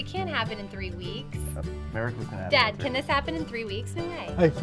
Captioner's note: none